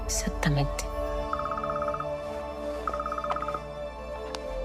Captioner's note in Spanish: Suena celular